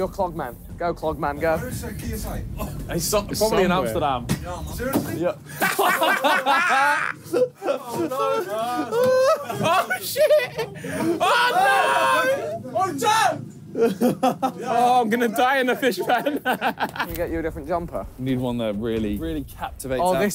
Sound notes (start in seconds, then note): 5.6 camera thuds; 6.9 laughing; 11.3 laughing